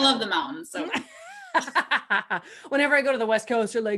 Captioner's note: laughs